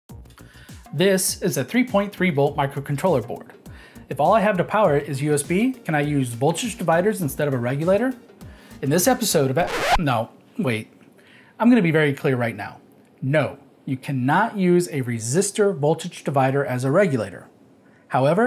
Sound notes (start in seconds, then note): 9.5 record scratch